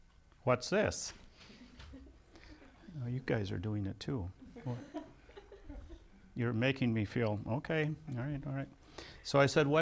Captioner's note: laughs